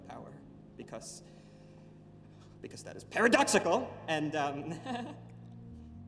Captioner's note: nervous laugh